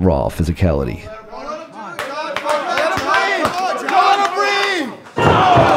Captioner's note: audience cheering